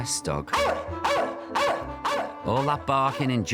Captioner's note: dog barking